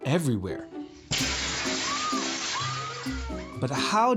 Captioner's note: glass shatters; woman screams